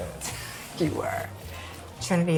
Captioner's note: laughing